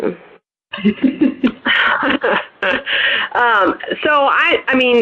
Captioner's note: laughter